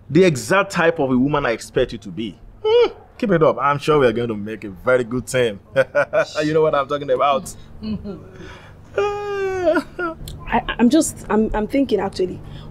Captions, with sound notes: The exact type of a woman I expect you to be. Keep it up. I am sure we are going make a very good team. [Laughs] You know what I am talking about. I’m just… I’m thinking actually.